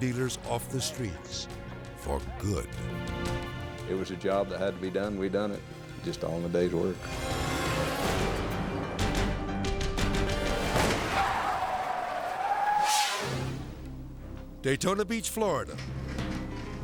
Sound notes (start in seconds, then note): 3.0 dramatic music; 7.0 edgy dramatic music; 10.6 tires skidding; 12.8 screen exploding